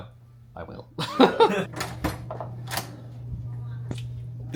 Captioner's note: laughs